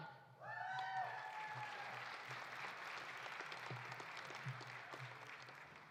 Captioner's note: audience cheering; audience applauding